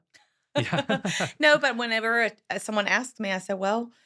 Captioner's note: laughs